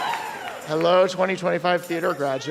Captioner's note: applause and cheers